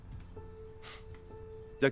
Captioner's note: Mario resopla